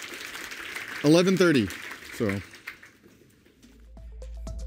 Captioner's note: applause